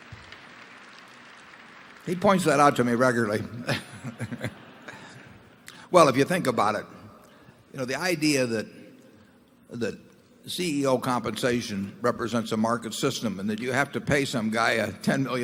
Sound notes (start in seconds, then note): 0.0 applause; 3.6 laughs